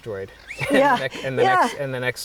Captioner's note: laughs